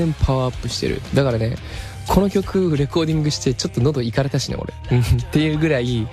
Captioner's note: laughs